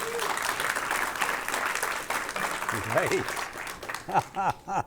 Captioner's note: audience applauding